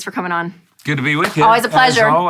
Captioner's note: hands clap